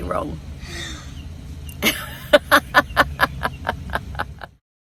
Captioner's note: both chuckle